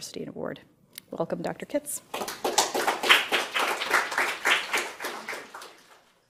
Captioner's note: audience applause